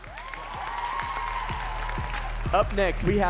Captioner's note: audience cheering and clapping